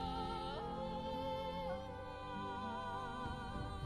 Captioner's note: none